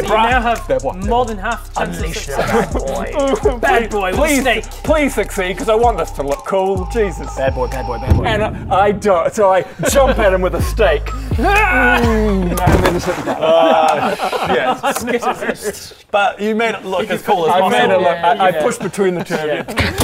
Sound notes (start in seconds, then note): 3.1 cries; 11.3 hyrrrgh!; 14.8 unimpressed laughter